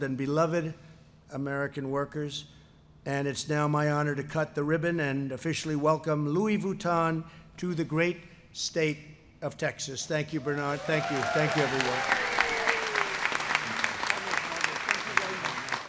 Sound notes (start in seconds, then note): 12.2 applause